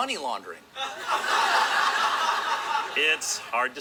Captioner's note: laugh